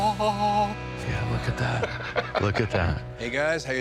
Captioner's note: laughs